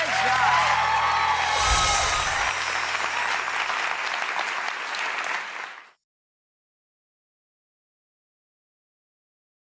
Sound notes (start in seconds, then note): 0.0 audience clapping; 2.6 audience cheering